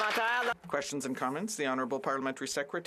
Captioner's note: some Applause